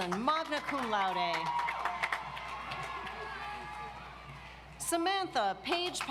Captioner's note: audience applauds